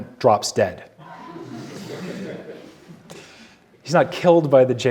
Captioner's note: audience laughing